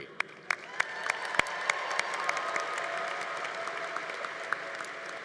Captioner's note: congregation applauding